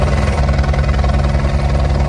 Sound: helicopter noise

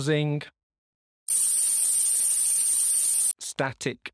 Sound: high pitched buzzing

